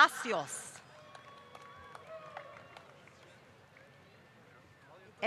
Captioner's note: applause